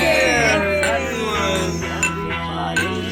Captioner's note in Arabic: طقطقة الزجاج